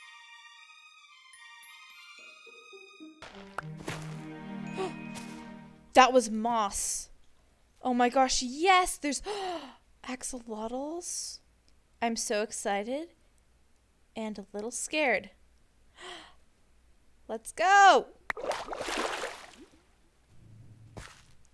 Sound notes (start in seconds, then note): 4.8 gasp; 9.2 gasp; 18.3 water bubbles